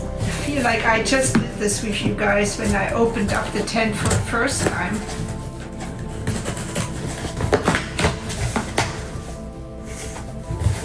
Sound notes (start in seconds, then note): 6.3 cardboard sounds